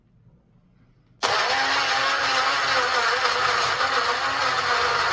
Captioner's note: blender whizzes